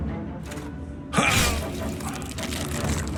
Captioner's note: grunts